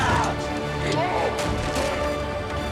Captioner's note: shouts